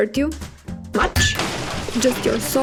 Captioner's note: crash